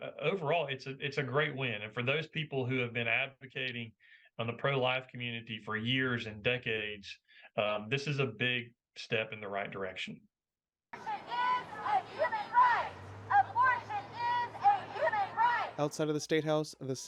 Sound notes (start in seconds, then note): 10.8 chanting: "Abortion is a human right"